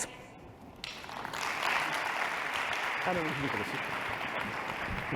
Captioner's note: applause